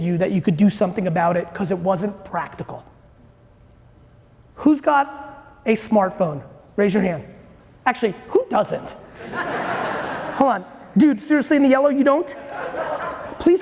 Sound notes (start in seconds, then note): 9.1 audience laughing